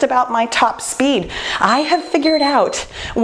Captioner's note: time beeping